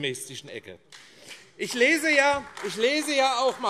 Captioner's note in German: Beifall AfD